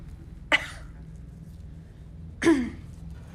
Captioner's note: sound of coughing; sound of clearing throat